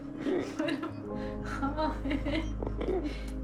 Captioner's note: laughter